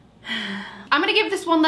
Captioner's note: sighs